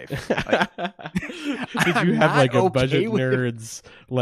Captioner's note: laughs